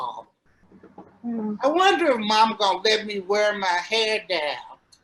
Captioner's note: off camera buzz